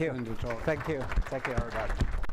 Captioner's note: applause